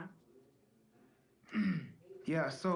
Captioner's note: clears throat